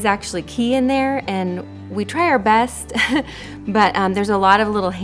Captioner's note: chuckles